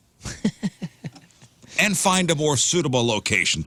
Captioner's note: laughing